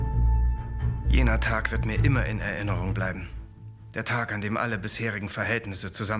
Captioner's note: speaking in foreign language